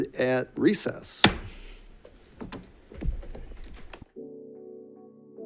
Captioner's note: gavel thuds; gentle music